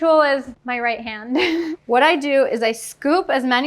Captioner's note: laughing